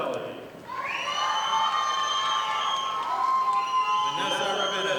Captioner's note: audience applauding